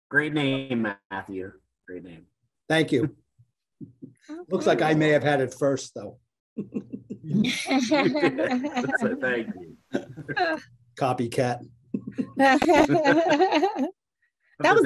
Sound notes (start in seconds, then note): 6.6 group laughing; 11.9 group laughing